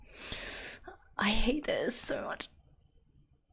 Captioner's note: sharp inhale